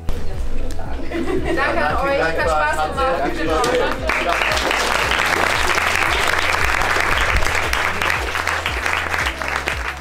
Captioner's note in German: Bedanken der Politiker, Applaus